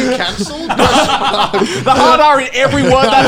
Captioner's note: laughing